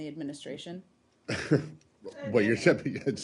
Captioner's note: laughter